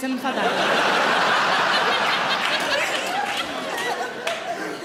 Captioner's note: audience laughing